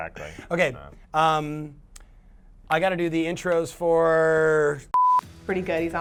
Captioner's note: beep